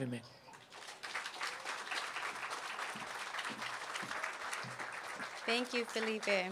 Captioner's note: applause